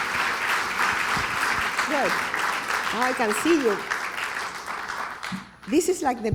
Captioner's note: applause